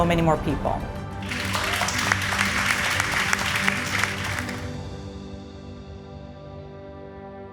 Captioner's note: gentle music; audience applauding